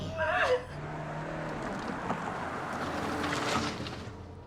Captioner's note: engine revving; soft dramatic music